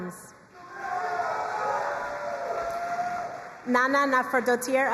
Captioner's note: crowd cheering and applauding